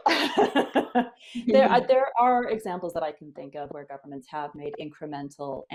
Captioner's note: laughter